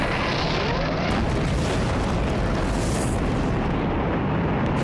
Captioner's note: rocket launching